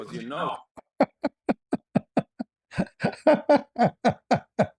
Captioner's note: ketawa